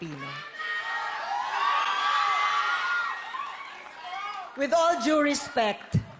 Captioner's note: crowd cheering